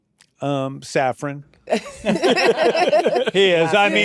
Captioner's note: laughter